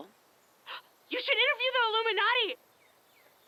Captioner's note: gasp